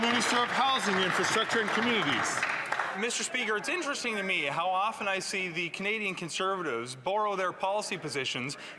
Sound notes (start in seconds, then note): 2.9 some Applause